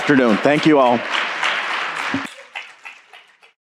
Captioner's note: applause